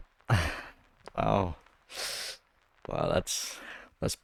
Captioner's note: inhales; laughs